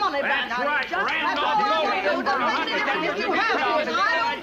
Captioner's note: arguing